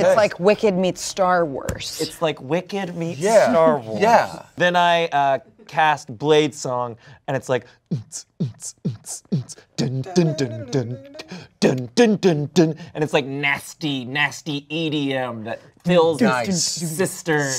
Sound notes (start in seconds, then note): 7.0 vocalizes